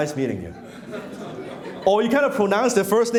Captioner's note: laughing